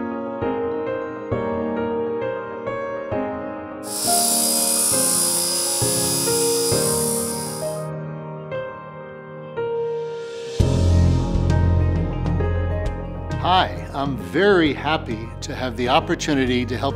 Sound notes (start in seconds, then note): 3.8 saw buzzing; 8.4 soft music